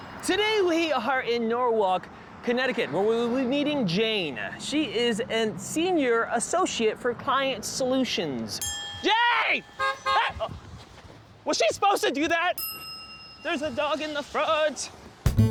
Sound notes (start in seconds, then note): 8.6 sfx ding; 9.0 car honks